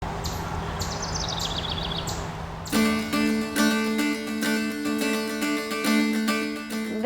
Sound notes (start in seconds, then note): 0.0 birds chirping; 2.7 folk music plays